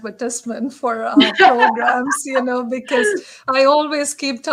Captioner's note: laughter